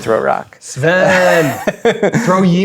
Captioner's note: laughing